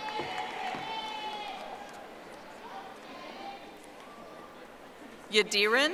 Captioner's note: audience applauding